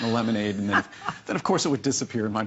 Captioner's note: laughter